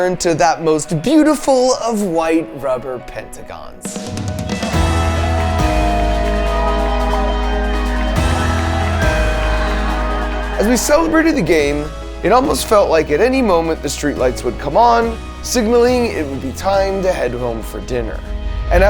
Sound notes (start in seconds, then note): 4.4 people cheering; 8.4 triumphant music